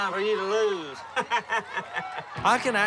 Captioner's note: laughing